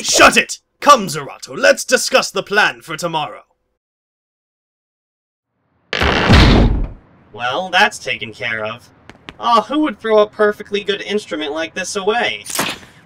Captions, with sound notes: Shut it! Come Xirato, let's discuss the plan for tomorrow. [dumpster lid slams shut] Well, that's taken care of. Aw, who would throw a perfectly good instrument like this away?